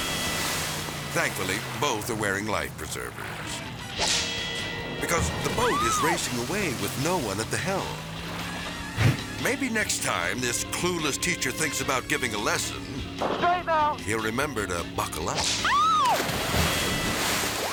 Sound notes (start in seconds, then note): 0.0 water splashing; 4.0 whip cracks; 15.4 whip cracks; 15.6 woman shrieks; 16.7 water splashes